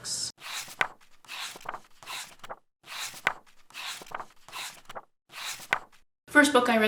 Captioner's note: pages turning